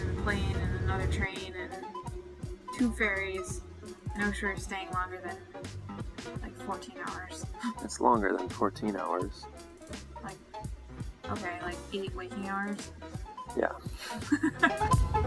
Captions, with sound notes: We took a train and a plane, and another train and two ferries and I wish we were staying longer than like 14 hours. It's longer than 14 hours. Ok like 8 waking hours? Ya. [Laughing]